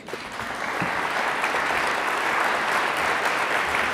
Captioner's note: audience laughs